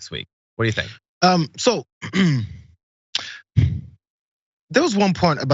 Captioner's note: cough